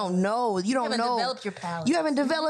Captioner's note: laughs